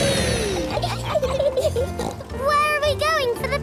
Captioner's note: laughs and snorts